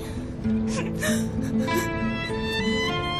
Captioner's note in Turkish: Ağlıyor